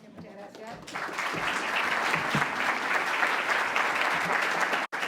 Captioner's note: audience applauding